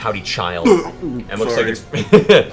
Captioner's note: retches